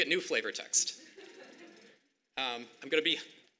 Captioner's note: audience laughing